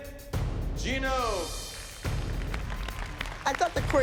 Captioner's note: applause